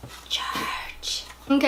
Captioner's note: whispers